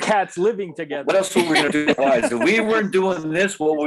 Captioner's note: chuckling